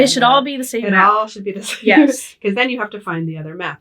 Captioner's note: laughing